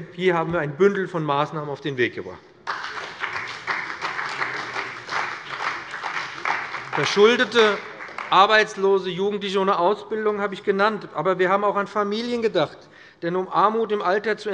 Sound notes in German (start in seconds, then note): 2.6 Beifall bei dem BÜNDNIS 90/DIE GRÜNEN und bei der CDU